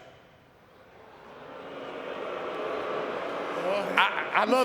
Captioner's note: audience booing